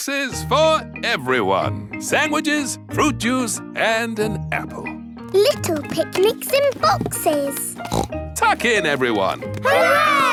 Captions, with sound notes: Lunch boxes for everyone! Sandwiches, fruit juice, and an apple! Little picnics in boxes! (SNORTS) Tuck in, everyone!